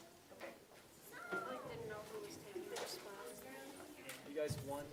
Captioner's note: students chattering